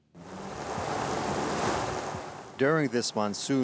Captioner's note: water lapping